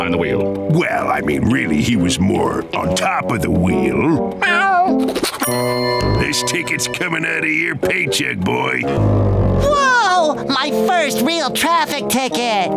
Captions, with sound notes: Well, I mean, really, he was more on top of the wheel. [meowing] This ticket is coming out of your paycheck, boy. Whoa! My first real traffic ticket.